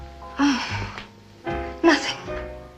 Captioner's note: sighs